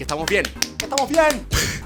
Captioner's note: applause; laugh